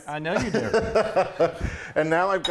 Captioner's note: laughing